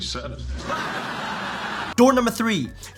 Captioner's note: audience laughing